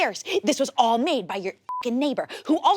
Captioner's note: beep